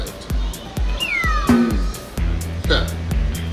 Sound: upbeat music; slide whistle; laughs

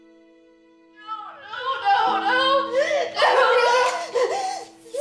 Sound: sobbing; Mrs. Graham hyperventilating

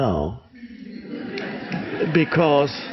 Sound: audience laughs

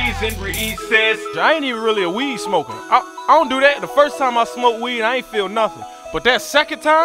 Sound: Jay talking

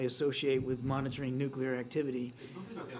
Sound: laughter

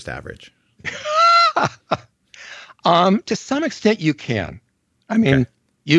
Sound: laughs

